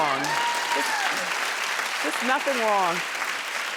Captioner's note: applauding